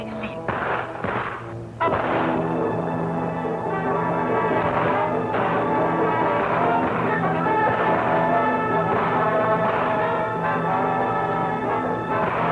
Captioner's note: gunshots